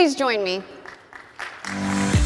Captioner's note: audience applauding